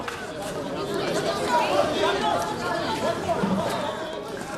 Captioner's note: reporters clamoring